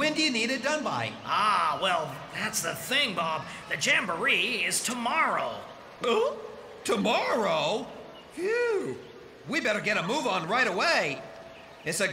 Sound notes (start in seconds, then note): 6.4 gulp!